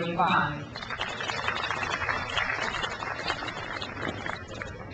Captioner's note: crowd applauds